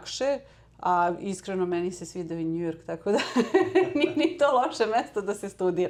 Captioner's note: laughs